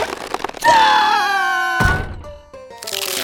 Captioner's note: screams!